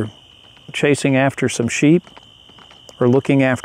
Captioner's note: hooves clopping